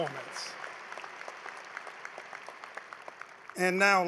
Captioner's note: applause